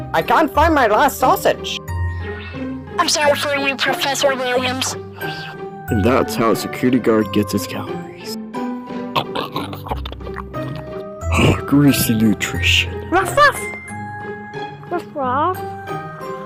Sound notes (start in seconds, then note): 9.1 security Guard loudly eats the sausage; 11.9 sigh